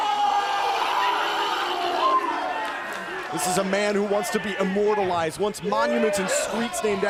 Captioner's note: crowd cheering